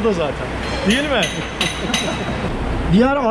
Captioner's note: laughings